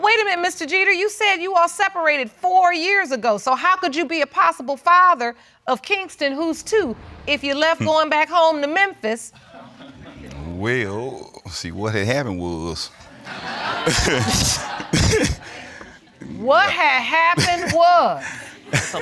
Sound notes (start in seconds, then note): 13.2 all laughing